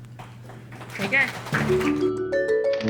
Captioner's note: applause